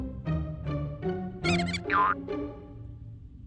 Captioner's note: mouse squeaks